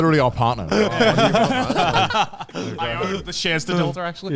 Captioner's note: all laugh